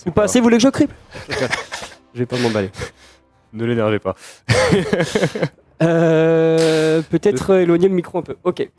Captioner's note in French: rires